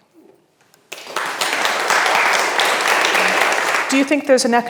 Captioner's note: audience applauds